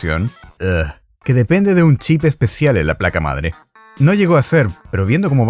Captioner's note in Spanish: ugh